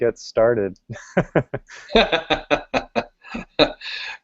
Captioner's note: chuckles